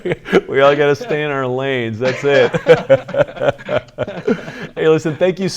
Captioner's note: laughing; laughs